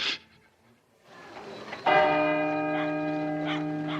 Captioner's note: bell tolling